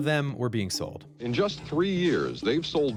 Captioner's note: soundbite of archived recording